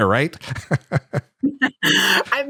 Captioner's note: laughs